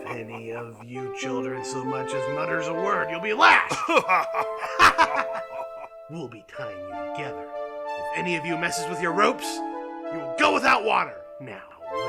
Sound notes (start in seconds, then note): 3.0 צוחק